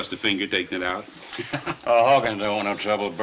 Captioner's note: laughs